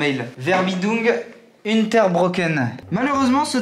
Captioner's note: in German